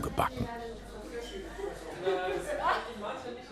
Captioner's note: voices, laughter in the background